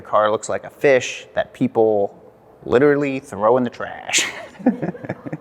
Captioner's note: laughs